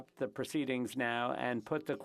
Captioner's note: speaking FRENCH